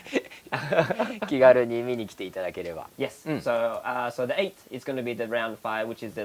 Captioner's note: laughs